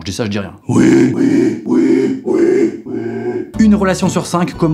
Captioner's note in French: Voix grave bizarre